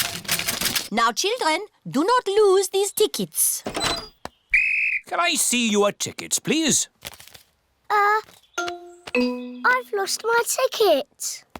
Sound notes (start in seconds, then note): 4.5 blows whistle